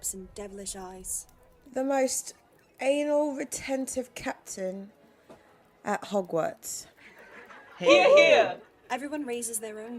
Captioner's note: laughter